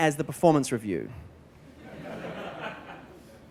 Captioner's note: laughter